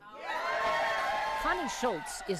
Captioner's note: cheers and applause